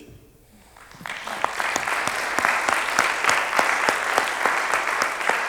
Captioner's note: audience applauds